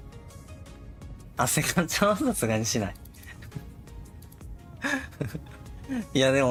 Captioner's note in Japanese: 笑い